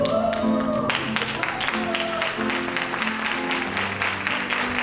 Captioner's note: cheering